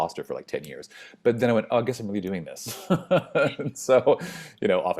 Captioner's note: laughs